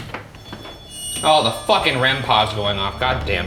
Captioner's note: REM-Pod beeping